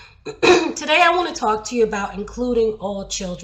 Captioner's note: clears throat